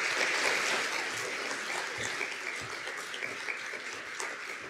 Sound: audience applauds

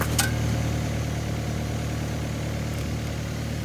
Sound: engine rattling

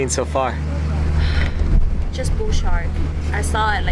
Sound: sigh again

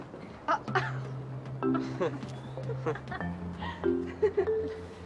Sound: awkward chuckles

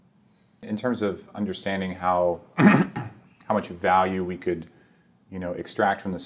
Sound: cough

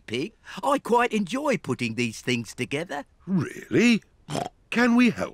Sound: snorts

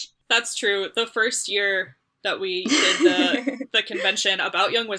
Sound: laughs

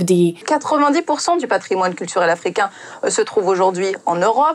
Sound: report speaks French

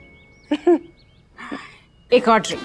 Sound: both chuckles

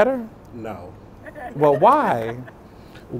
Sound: audience laughter

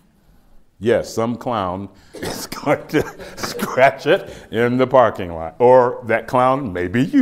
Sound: laughs

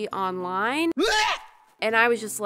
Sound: scream

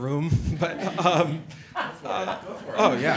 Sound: all laughing

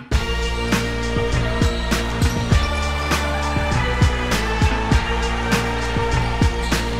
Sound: upbeat music; players shouting

